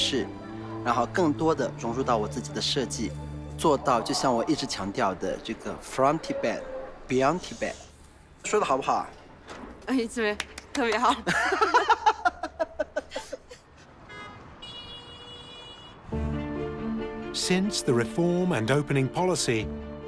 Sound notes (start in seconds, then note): 11.2 laughing; 14.0 horns honking